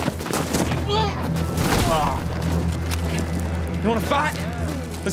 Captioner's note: enemy grunts